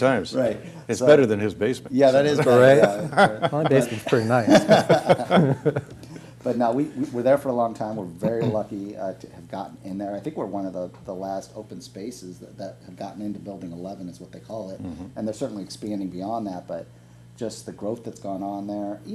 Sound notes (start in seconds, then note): 4.2 group laugh